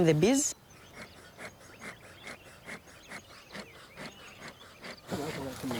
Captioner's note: puffing; speaking in foreign language